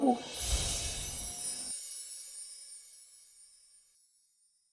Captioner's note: ethereal twinkling